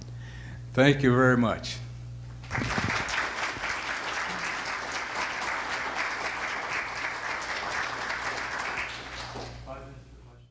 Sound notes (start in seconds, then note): 2.4 audience applause